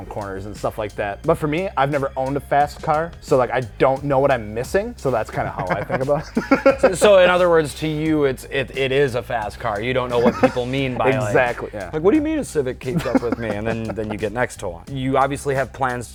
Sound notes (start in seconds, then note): 5.2 laughs; 12.9 laughs